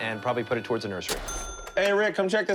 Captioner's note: cash register dings